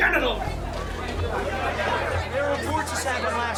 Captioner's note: chatter